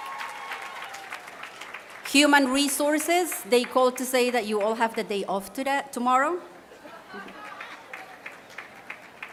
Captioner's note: applause